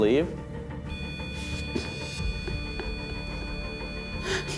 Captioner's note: beeping